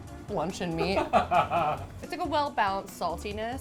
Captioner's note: laughs